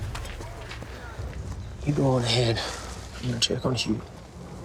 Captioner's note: footsteps